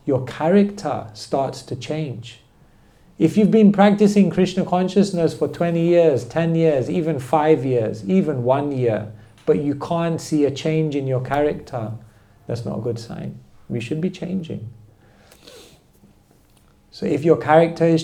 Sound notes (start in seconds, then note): none